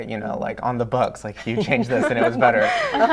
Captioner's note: laughter